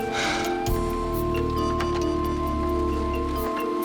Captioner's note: sighs